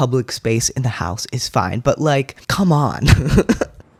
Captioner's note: laugh